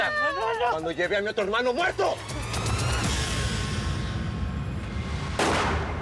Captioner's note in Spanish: gritos